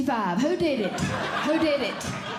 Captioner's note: audience Laughing